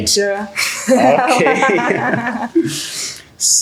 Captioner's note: laughter